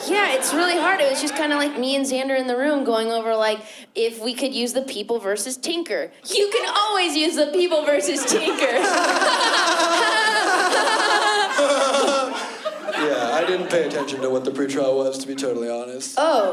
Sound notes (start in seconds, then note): 11.2 laughing; 12.5 forced laughter